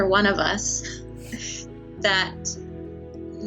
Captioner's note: laughs